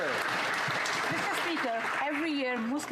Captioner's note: applause